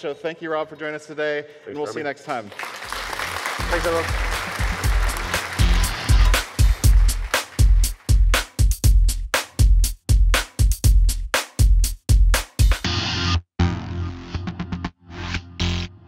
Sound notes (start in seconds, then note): 3.6 music with heavy beat; 4.7 audience applause